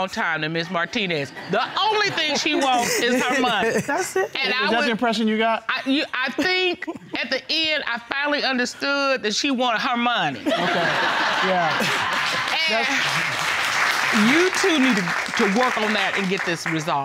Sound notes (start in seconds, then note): 1.4 laughing; 10.4 laughter